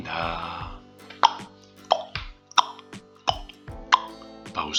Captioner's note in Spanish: ti, tac, tic, tac